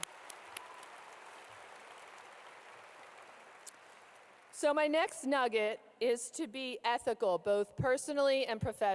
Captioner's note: clapping